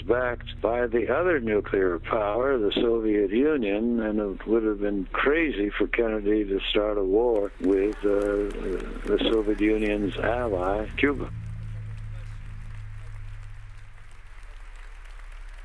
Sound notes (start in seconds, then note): 11.1 members applauding